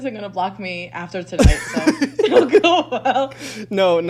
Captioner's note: laughs